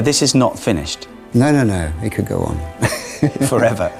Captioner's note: chuckles